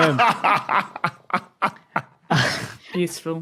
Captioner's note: laugh